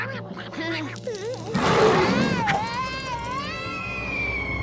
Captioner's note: squirrels roar; screams